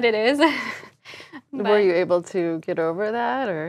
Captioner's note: laugh